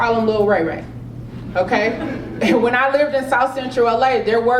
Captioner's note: laugh